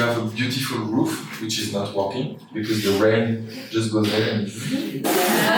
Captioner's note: laughter